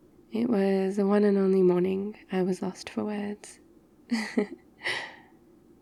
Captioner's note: laughs